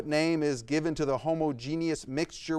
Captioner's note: none